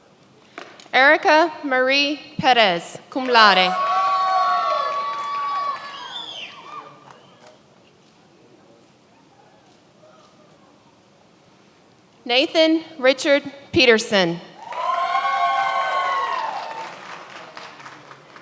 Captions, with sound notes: Erica Marie Perez, cum laude. (many applauding) Nathan Richard Peterson. (many applauding)